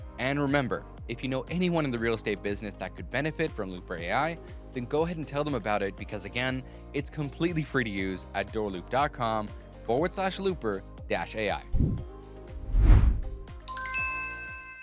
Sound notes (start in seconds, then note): 11.0 upbeat music; 12.5 upbeat music fades; 12.5 screen whooshes; 12.5 logo whooshes; 13.6 logo chimes